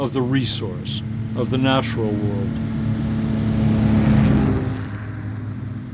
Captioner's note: motors roar